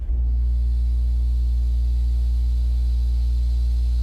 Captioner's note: compressor whirring